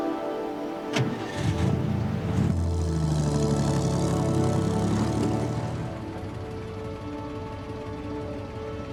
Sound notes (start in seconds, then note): 1.1 engine rumbling; 3.0 soft dramatic music continues